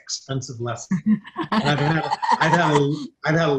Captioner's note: group laughs